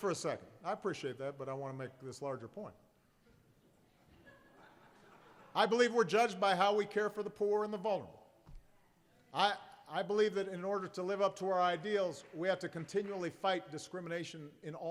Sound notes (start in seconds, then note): 4.0 laughter